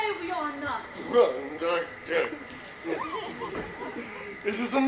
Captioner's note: Dogberry mumbles mockingly